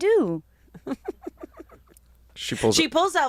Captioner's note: laughs